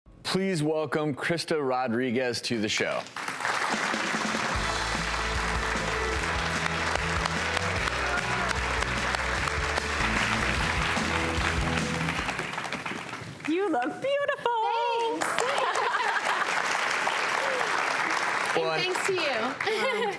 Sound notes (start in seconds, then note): 3.8 upbeat music; 4.0 audience applause; 16.3 laughs